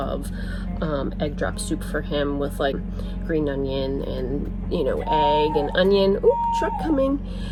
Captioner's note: sensor hooting